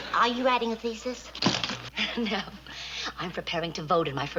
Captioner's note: chuckles